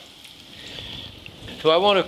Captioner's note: garlic sizzling